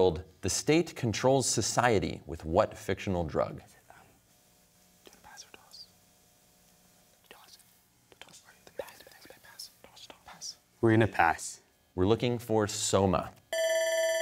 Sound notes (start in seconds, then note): 3.8 whispers; 13.5 bell ringing